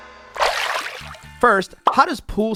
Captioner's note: water splashing